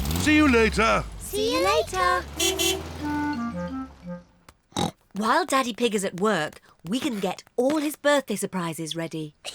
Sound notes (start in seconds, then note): 2.3 car horn toots; 4.7 oinks